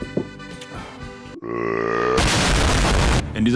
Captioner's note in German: lautes Rülpsen